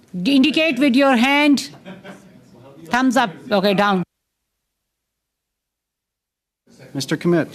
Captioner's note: silence